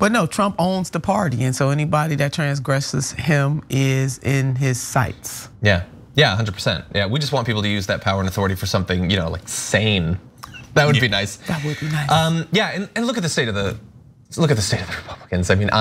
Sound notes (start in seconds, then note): 10.4 laugh